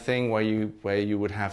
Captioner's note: none